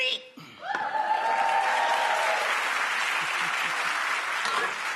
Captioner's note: audience cheering